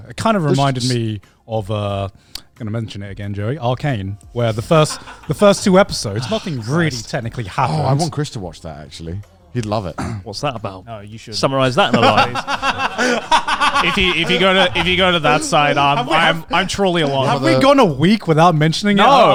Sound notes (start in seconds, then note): 11.6 laughs